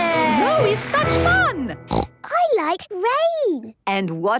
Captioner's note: snorting